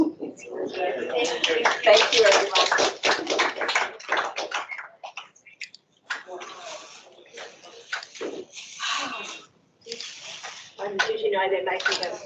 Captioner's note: applause